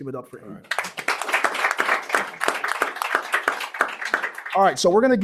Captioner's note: applause